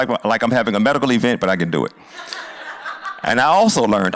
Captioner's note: laughter